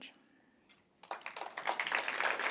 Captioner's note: applause